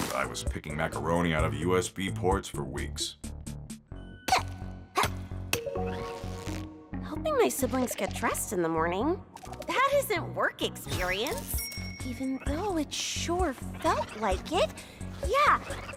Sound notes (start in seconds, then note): 4.3 grunting